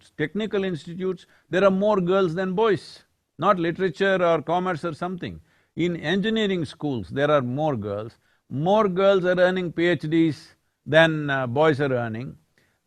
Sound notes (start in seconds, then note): none